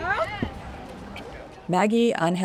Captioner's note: crowd agrees